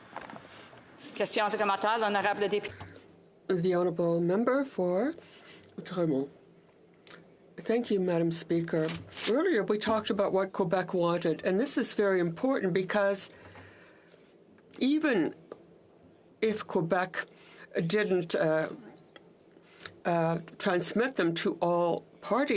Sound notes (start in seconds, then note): 6.5 speaking in French